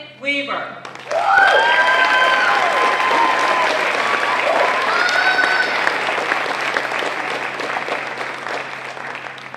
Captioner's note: applause